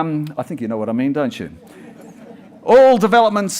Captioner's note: audience chuckles